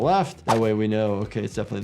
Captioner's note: graphics whooshing